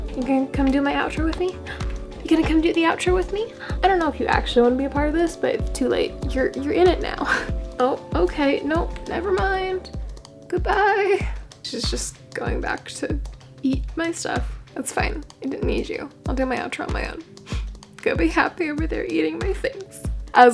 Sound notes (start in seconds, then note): 17.4 sniff